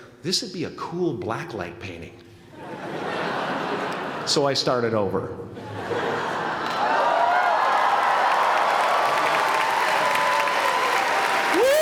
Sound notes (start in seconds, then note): 2.5 laughter; 5.6 laughter; 6.8 applause